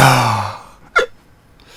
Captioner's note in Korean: 딸꾹